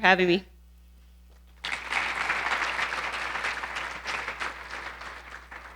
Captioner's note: audience applauding